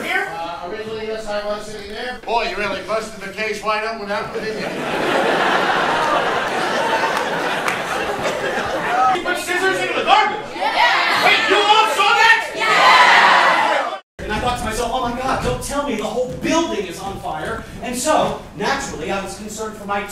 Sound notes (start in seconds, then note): 4.2 audience laughs